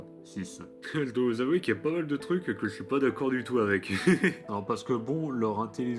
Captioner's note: laughing